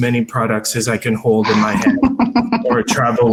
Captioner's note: laughs